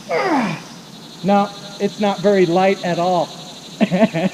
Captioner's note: laughing